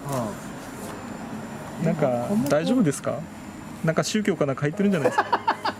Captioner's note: laughs